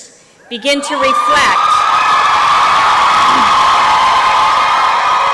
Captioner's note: applause and cheering